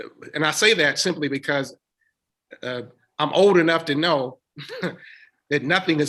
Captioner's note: chuckles